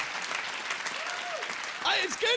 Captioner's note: applause